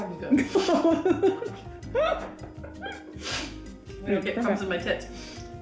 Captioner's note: laughing